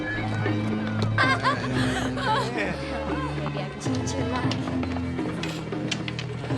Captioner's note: laughter